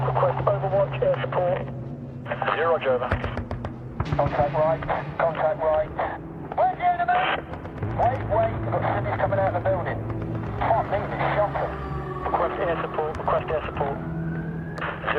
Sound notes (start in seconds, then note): 6.5 man shouting